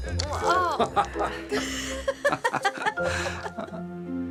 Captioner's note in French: tous rient